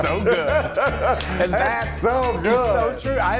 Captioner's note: laugh